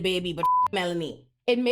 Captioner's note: beep